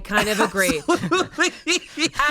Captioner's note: laughs